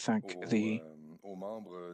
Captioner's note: speaking French